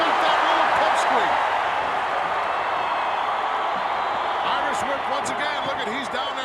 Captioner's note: applause